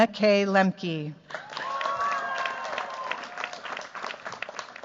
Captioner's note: cheers, applause